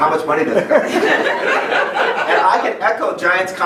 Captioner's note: laughing